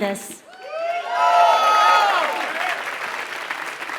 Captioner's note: applause